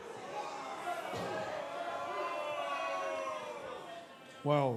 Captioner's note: cheers and boos